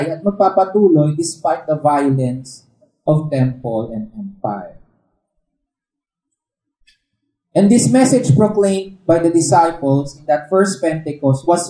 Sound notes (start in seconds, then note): none